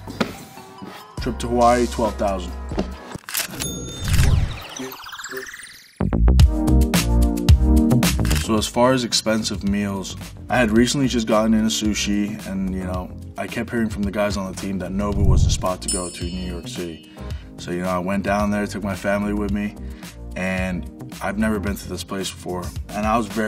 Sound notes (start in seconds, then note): 3.5 ka-ching; 5.9 upbeat music